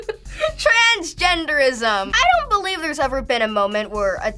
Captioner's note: laughs